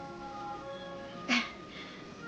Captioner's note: laughs